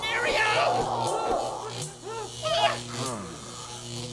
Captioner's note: electric roar